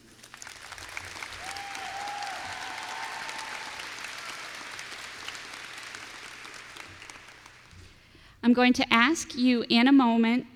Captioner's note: applause